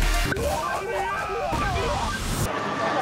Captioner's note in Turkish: oyun sesleri